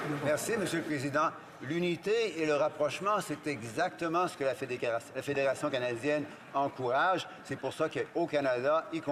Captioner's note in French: applaudissements